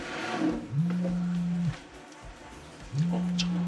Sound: phone vibrates

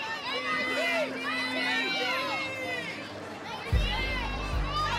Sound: spectators cheering

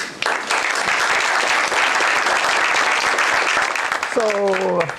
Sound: applause

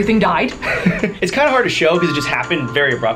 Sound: laughs

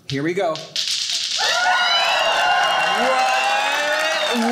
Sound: audience cheering

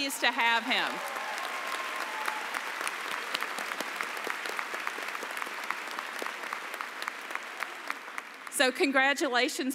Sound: applause

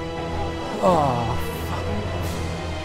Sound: sigh of relief

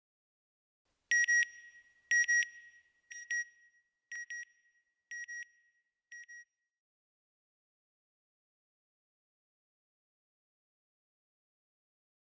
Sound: beeping

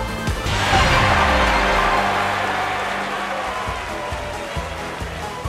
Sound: audience celebration; jump sound

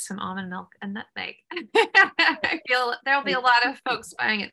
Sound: laughter

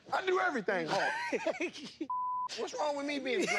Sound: laughs, bleep

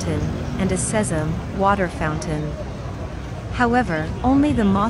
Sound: water fountain

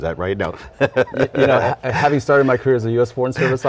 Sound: laughs

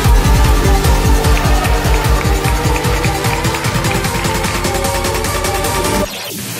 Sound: audience cheering and clapping

